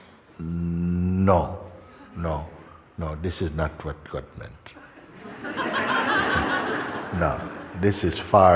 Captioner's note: Lachen